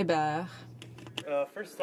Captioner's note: speaking French